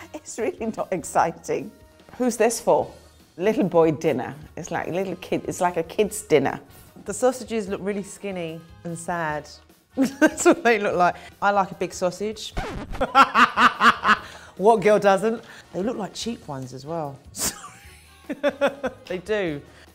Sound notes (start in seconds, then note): 10.1 laughing; 12.9 laughs loudly; 17.4 laughing